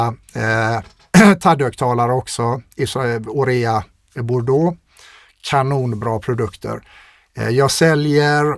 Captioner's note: clears throat